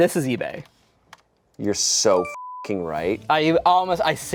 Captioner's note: beep